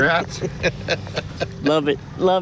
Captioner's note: laughing